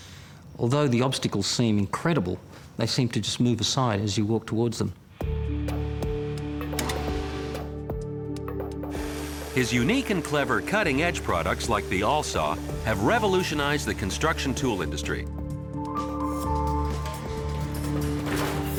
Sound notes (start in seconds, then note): 5.5 gentle dramatic music; 8.9 saw whirring; 15.4 gentle dramatic music